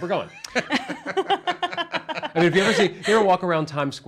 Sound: everyone laughs

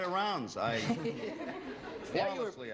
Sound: laughter

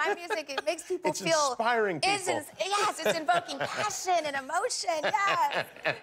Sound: laughter

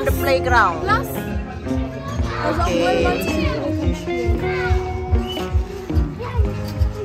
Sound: speaking German; background music

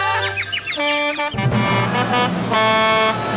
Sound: truck horn honking

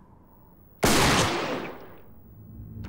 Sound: gunshot

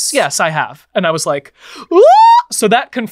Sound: yells

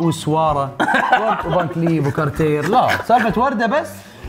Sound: laughs

